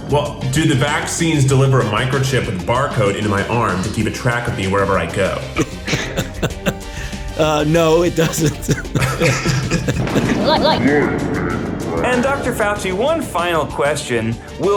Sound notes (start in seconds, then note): 5.6 chuckles; 9.1 both laugh